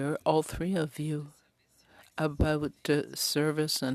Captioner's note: speaking French